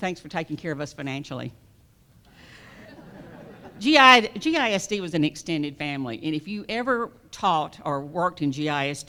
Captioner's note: laughter